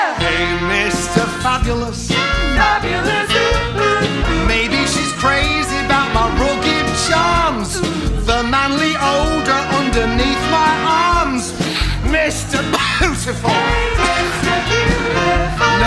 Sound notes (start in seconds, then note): 11.6 sniff; 12.6 cough